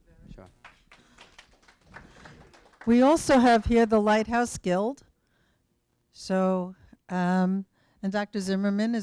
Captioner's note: applause